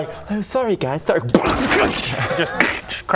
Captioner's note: boosh